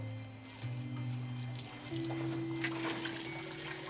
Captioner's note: water splashes